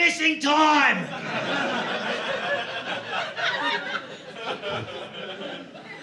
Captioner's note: audience laughing